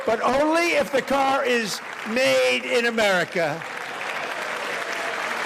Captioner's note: applause